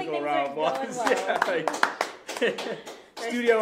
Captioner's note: applause and laughter